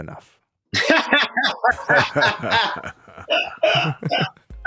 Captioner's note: Georges laughs